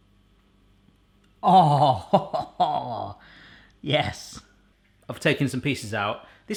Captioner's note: laughs